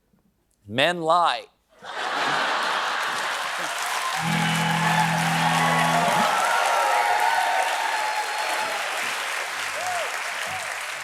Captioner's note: laughter